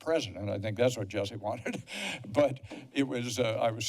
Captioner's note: laughter